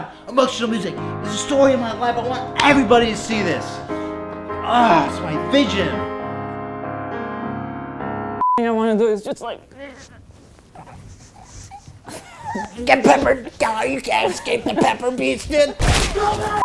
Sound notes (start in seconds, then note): 9.4 struggling sounds; 14.3 HIla laughing